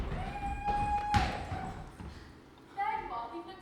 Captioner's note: audience member cheers